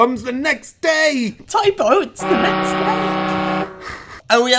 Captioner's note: horn blows